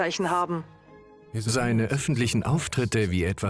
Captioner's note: voiceover